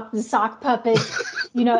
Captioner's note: laughs